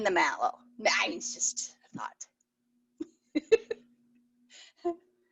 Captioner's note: laughs